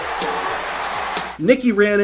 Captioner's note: crowd cheers